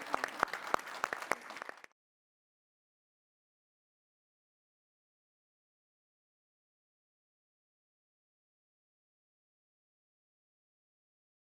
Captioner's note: applause